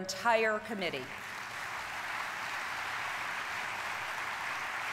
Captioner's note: audience applauding